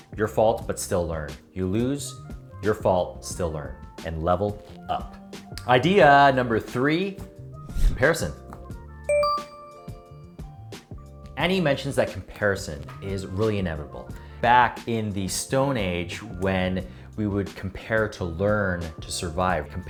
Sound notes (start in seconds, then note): 9.1 bell rings